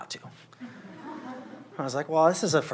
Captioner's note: laughter